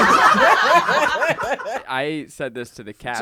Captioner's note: everyone laughs